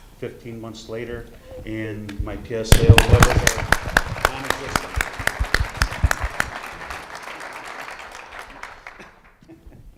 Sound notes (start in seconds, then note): 4.9 audience clapping